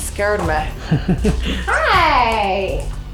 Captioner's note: laughing